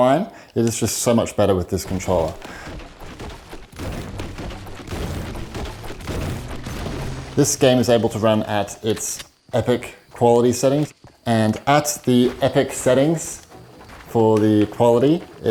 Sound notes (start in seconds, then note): 1.8 sounds of chopping wood